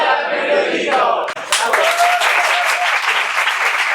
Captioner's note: applause